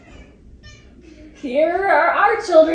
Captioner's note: cat meows